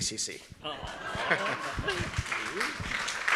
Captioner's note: laughs; audience applauds